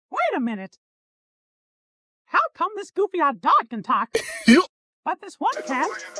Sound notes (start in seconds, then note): 4.1 goofy ahh laugh